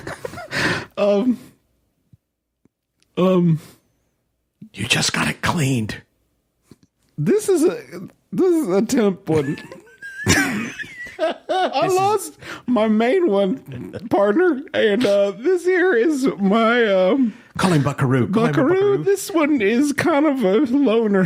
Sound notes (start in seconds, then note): 3.0 still whispering; 7.1 strained; 9.3 laughter